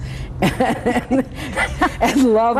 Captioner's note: laughs happily